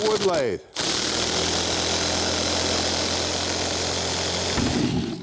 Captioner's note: screwdriver buzzes; air whooshes